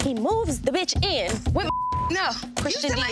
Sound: beep

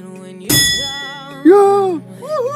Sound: bell dings

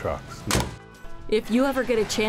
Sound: door closes

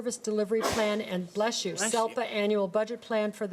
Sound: sneeze

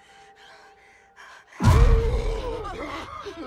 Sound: gasping

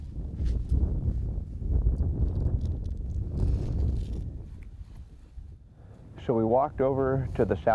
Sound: wind gusting

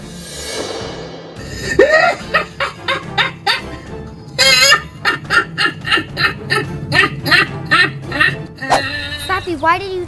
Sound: laughing

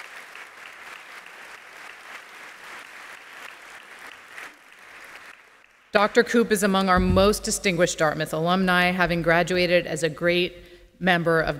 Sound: applause

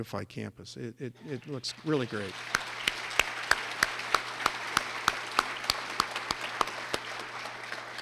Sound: clapping

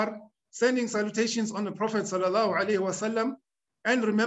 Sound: speaking arabic

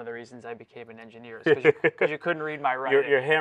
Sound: laughing

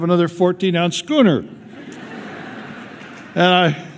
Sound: laughter

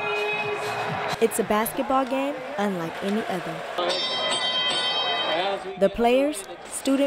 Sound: bell ringing

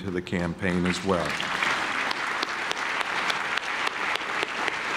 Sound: clapping

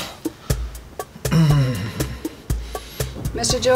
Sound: grunts in pain

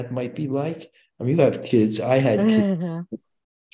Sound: laughing

